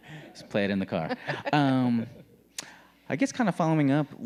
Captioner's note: laughing